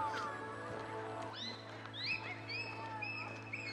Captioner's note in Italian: rumori dei bambini che giocano